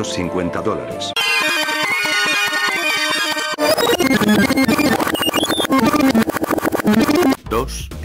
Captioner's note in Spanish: Sonido de rebobinado